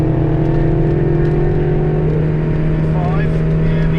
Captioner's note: car engine roars